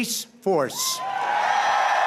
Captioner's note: applause